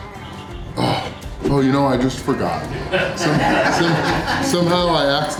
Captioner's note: crowd laughter